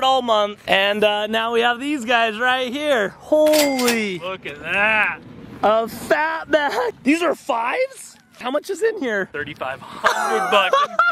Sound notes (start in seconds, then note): 3.6 cashier register sound effect; 9.8 laughs